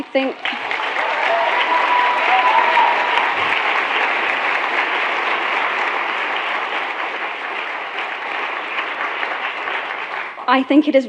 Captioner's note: cut off by applause; lots of clapping